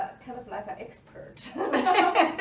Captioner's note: both laugh